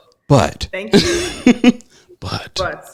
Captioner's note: laughing